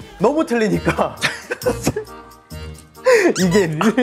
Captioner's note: laughing